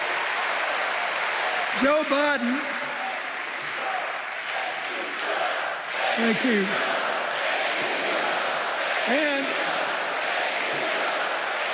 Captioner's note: cheers and applause